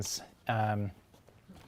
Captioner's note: none